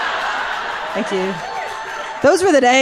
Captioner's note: audience laughs; audience cheers